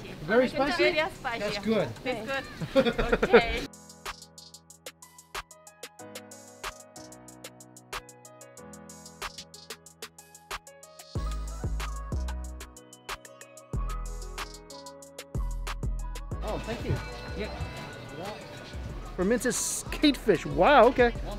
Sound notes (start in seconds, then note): 2.4 laughs; 4.2 gentle music